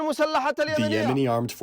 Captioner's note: through translator